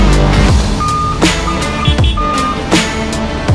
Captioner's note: upbeat music; truck beeping; horn honking